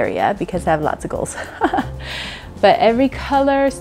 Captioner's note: laughs